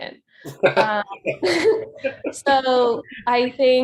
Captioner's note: laughing